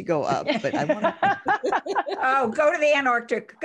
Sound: ladies laughing

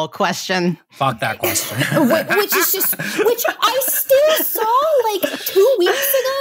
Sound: laughs

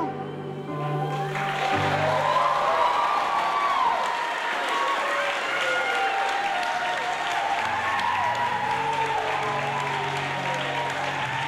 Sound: applause

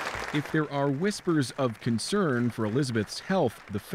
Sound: applause

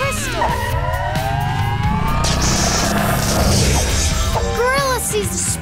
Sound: engines whining; sparks crackling

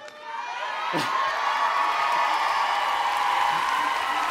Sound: cheers and applause

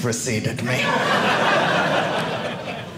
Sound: audience laughing

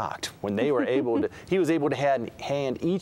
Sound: laughter

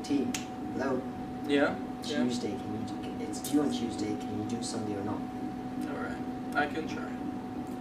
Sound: snaps fingers

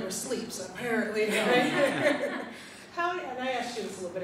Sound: audience laughing

